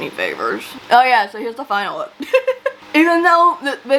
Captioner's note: laughs